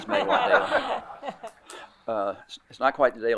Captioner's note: group laughing